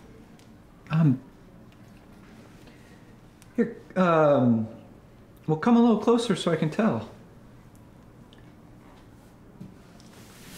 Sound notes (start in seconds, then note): none